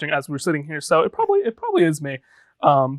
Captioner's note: chuckling